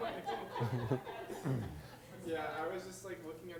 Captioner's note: laughter